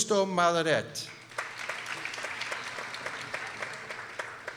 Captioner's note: people applauding